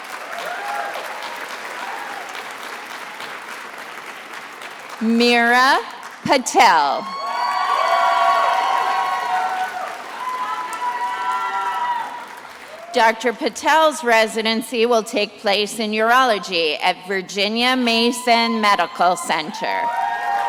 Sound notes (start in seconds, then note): 0.0 attendees applauding; 7.0 attendees applauding and cheering; 19.7 attendees applauding